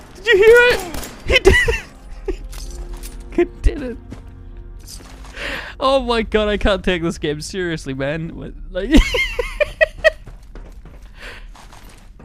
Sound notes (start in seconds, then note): 8.9 laughs harder